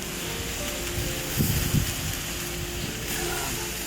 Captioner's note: food sizzling